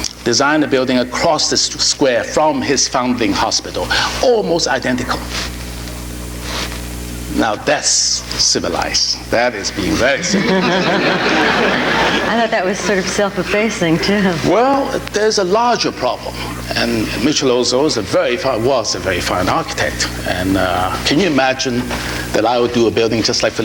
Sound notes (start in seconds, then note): 9.7 audience laughing